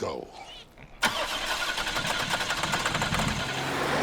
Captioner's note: engine stalling